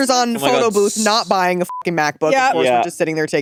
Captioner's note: beep